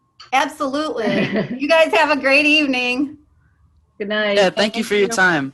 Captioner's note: laugh